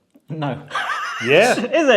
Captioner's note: laughs